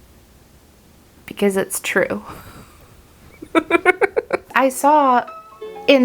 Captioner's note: giggles